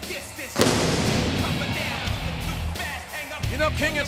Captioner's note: pyro blasting